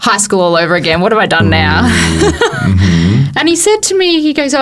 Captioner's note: laughs